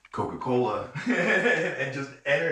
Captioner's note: ambos riendo